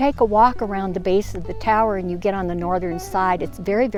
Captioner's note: voiceover